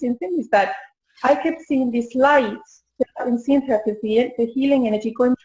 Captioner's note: audio warbling